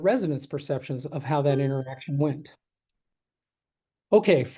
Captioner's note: bell ringing